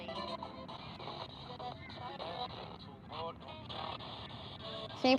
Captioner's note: radio static and clips of music